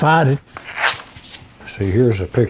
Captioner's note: pages flipping